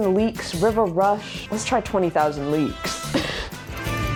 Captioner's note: laughs